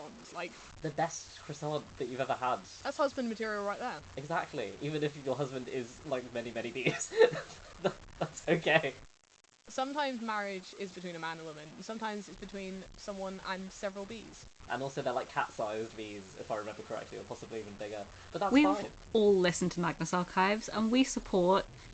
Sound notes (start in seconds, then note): 6.8 laughing